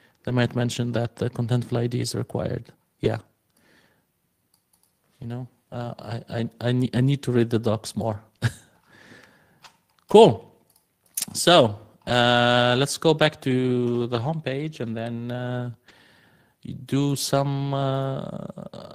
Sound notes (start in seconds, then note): 8.0 laughs